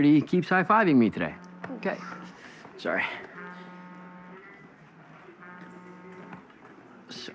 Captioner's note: phone vibrating